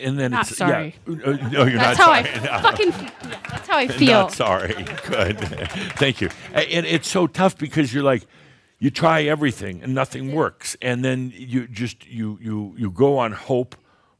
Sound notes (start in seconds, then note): 1.2 chuckles; 1.2 more laughter; 2.0 more applause; 4.6 chuckles